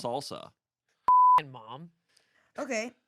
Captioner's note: beep